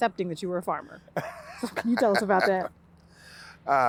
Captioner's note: laughing